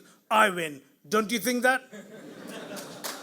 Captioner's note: audience laughs; audience applauds